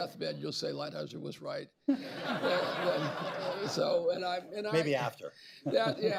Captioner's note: laughter